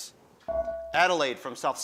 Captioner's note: buzzer dings